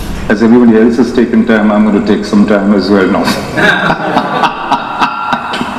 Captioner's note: laughing